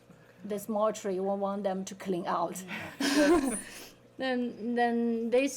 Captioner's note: laughing